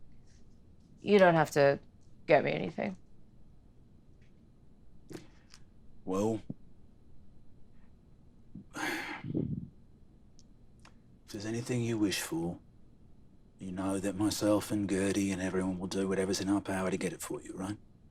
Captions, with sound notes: you don't have to get me anything. - Well, (sighs) if there is anything you wish for, you know that myself and Gertie and everyone will do whatever is in our power to get it for you, right?